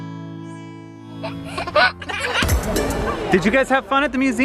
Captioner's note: giggling